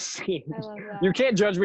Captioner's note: laughter